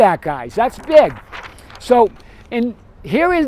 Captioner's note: paper rustles